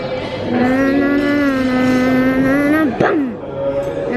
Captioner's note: babbling